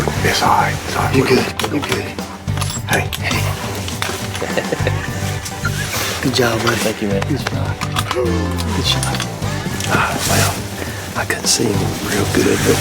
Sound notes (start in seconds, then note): 2.5 gun chamber clicking; 4.0 laughing